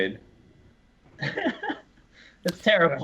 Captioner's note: laughs